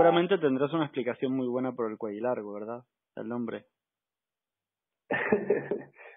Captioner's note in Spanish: risas